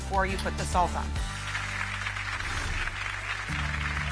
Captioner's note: clapping